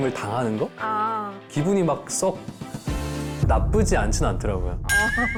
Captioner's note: twisted phrasing sound